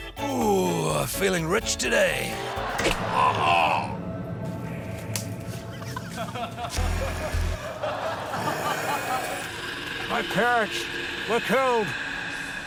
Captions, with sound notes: - Oooooh, feeling rich today. (LAUGHTER) - (YELPS) (DRAMATIC MUSIC) - (GROWLS SOFTLY) My parents were killed...